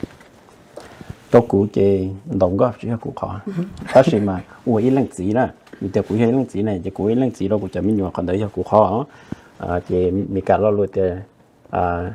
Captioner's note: Speaking in Hmong